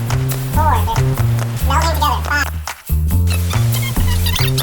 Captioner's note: sped-up squeaking